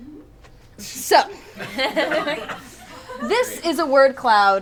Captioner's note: audience chuckles